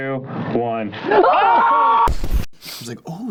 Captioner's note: screaming